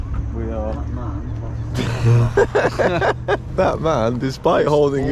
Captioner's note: both laugh